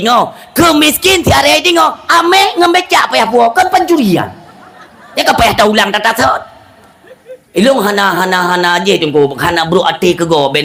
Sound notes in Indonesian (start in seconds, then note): 6.8 tertawa